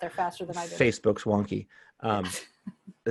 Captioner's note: laughter